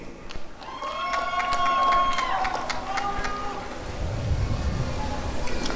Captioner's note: applause and cheering